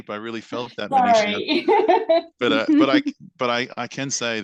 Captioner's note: laughs